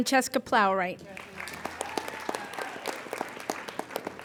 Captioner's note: applauding